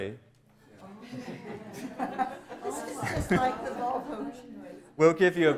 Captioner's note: chatter